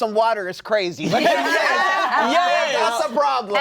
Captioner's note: uproarious agreement